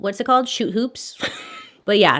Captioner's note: laughs